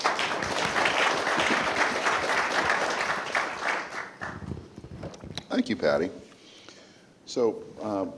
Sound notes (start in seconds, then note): 3.9 applause